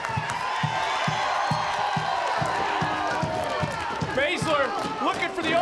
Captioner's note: audience cheering